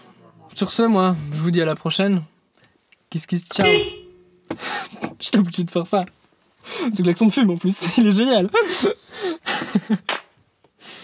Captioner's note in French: klaxon